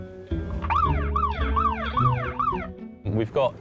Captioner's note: siren wailing